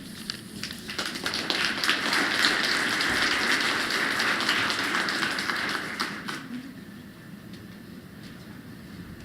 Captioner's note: applause